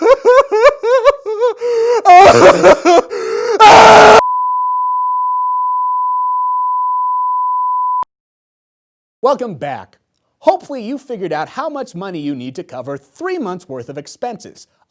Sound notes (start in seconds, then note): 0.0 crying; 3.4 screaming